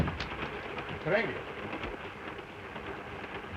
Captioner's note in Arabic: يغلق الباب; هارتز يتحدث لغة أجنبية; صوت خشخشة القطار